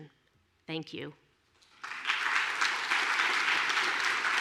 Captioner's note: applause